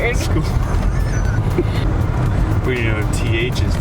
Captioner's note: laughing